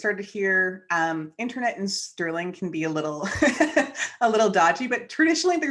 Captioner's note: chuckles